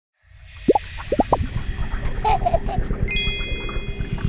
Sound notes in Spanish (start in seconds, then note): 0.7 burbujas explotando; 2.0 bebé ríe